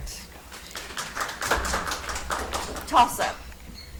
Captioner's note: audience applauds